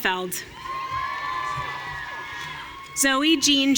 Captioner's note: audience cheering